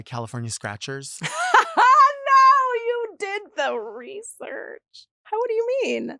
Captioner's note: laughs